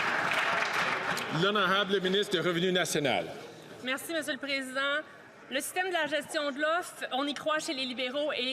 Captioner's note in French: applaudissements